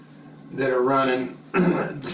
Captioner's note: cough